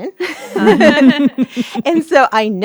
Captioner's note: laughing